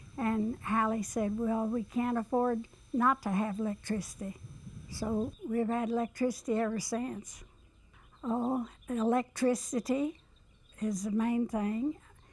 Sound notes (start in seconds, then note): none